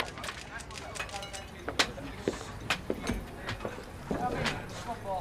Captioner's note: officers murmuring